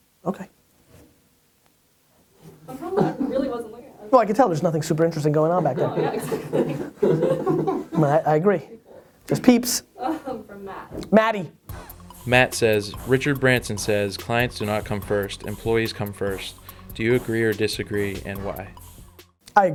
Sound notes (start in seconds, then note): 5.4 people laughing; 12.4 voiceover